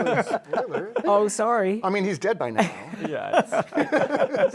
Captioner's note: laughter